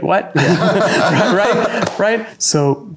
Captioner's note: both laughing